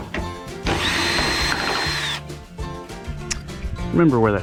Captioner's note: drill noises